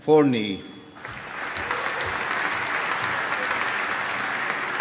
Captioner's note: applause